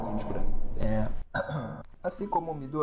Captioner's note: Cof, cof